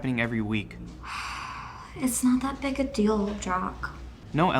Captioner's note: sighs